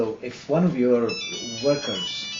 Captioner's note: cell phone rings